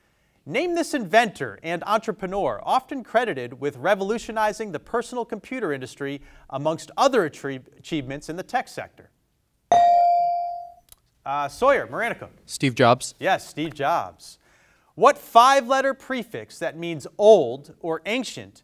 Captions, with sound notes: Name this inventor and entrepreneur often credited with revolutionizing the personal computer industry amongst other achievements in the tech sector. (bell dings) Sawyer, Maranacook. - Steve Jobs. - Yes, Steve Jobs. What five letter prefix that means old or ancient